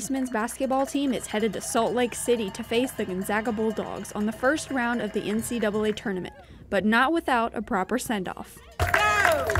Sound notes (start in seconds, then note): 4.6 nats cheerin